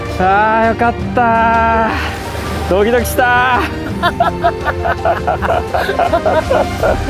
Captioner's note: laughs